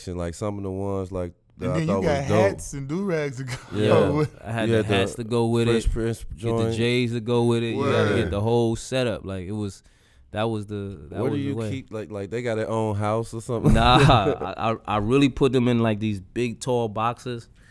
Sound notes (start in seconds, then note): 3.4 laughs